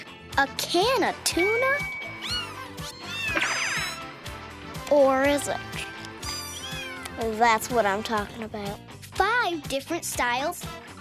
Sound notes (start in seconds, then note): 2.1 meowing